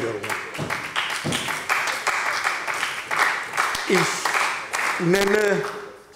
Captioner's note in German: Beifall bei Abgeordneten der SPD